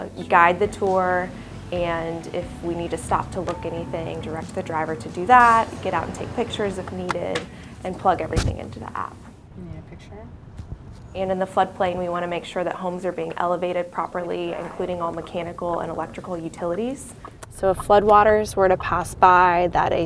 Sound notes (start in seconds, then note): 10.9 driving noises